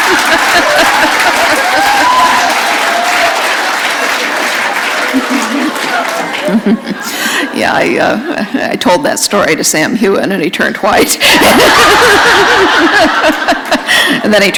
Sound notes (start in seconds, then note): 0.0 laughter; 1.7 applause; 8.4 laughter